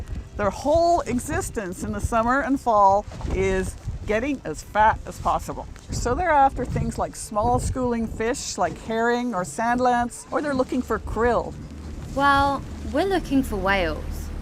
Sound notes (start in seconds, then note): none